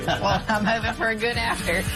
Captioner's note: laughter